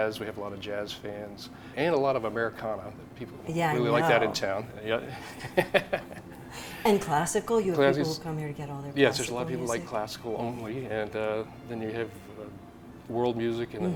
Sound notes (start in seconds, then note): 5.1 laughs